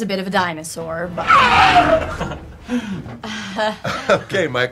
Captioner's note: roars